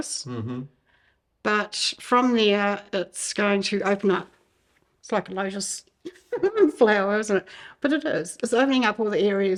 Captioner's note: giggle